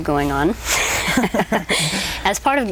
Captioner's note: both laugh